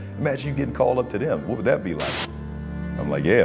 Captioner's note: TV static hissing